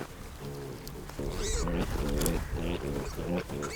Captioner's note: piglets grunting